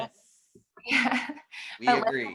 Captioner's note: laughter